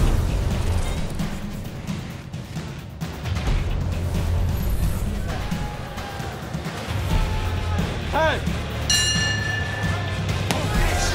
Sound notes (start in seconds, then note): 5.1 crowd cheers; 8.8 bell dings